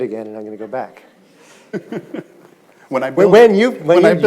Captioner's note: audience chuckles